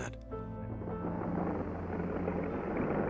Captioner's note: machine droning